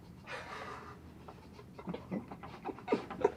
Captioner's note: laughing